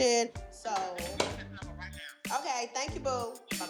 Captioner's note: on phone